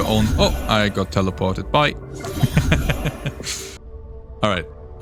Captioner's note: giggles